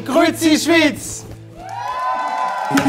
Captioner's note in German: Jubel, Applaus